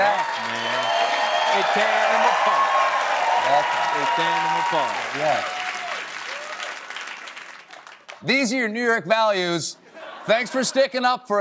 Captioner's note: cheers and applause